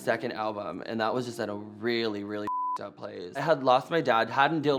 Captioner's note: beep